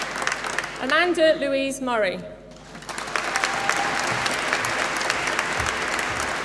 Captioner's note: applause